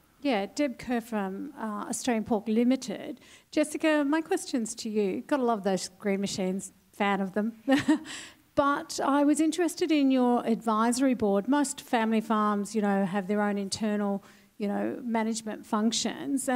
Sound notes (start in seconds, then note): 7.7 laugh